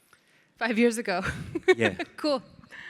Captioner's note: laughs